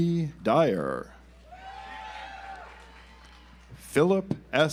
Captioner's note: audience applauds